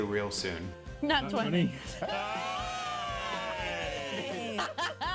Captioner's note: everyone cheers